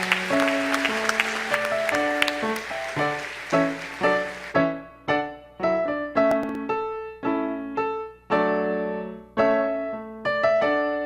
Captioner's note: applause